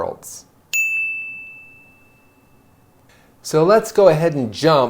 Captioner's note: bell rings